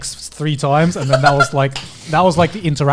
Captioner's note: laughing